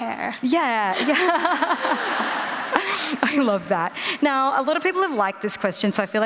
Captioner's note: laughter